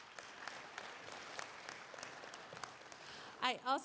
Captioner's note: applause